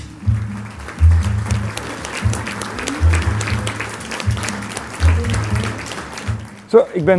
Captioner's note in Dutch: applaus publiek